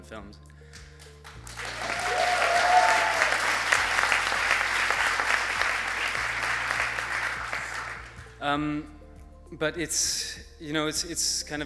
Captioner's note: applause